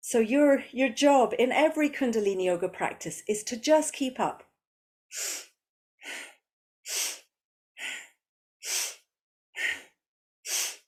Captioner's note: breathes